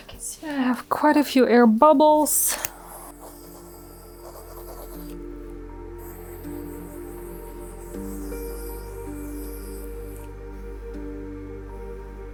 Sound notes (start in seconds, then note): 3.9 air softly blowing; 3.9 slow soft music